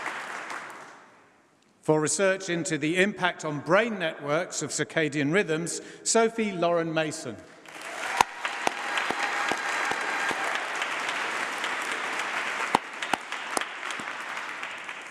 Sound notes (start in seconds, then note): 9.4 applause